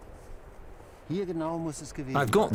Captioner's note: speaking German